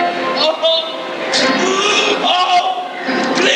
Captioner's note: sobbing